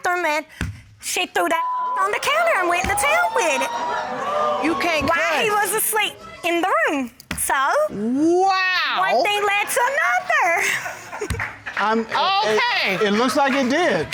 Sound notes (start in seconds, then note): 1.7 audience exclaims, hoots; 10.6 audience laughs, applauds